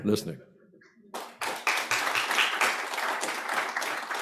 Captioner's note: applause